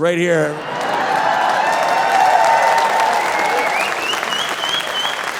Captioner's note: audience cheering and applauding